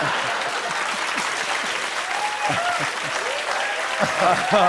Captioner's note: laughter; applause